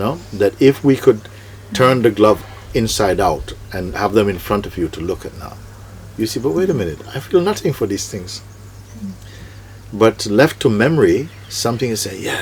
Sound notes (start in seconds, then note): none